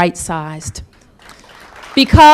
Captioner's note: applause